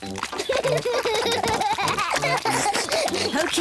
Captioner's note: both giggle